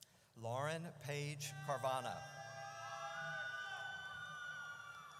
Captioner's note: audience cheers